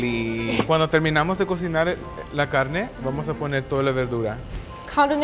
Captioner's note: speaking Spanish